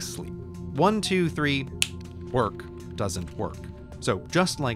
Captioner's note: fingers snap